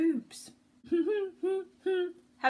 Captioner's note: humming